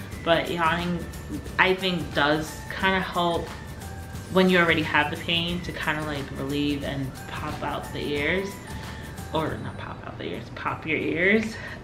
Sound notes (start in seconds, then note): none